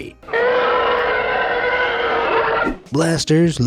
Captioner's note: Tie fighters screeches